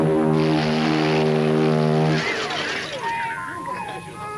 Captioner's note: horns blaring; glass shattering; light horns playing musically